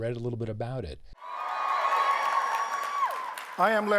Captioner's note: audience cheering